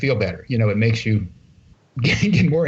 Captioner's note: laughter